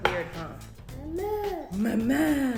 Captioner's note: baby gibberish